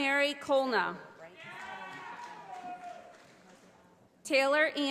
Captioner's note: audience applauding